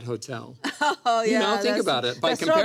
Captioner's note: laughs